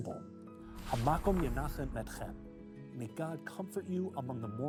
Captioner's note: speaking Hebrew